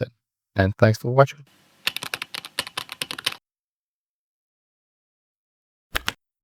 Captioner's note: typing